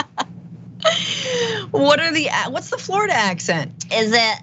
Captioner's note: laugh